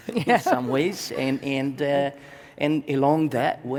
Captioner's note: laughs